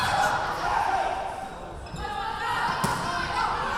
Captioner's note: yelling